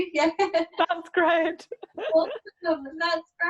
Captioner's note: laughing; laughs